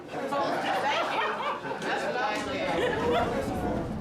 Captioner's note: laughing